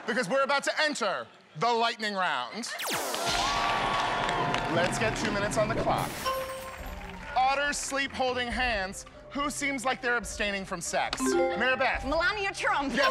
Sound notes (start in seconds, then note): 2.6 thunder crashes; 3.0 cheers and applause